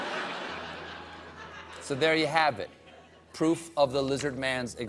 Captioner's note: laughter